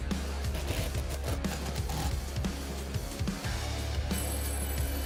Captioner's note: drill whirring